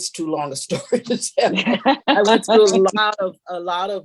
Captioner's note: laughs